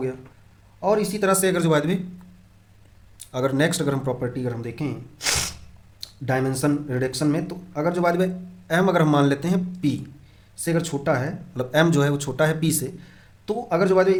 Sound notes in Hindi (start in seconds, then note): 5.2 नाक से की जाने वाली आवाज़